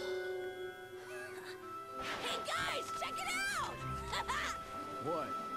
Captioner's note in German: kichert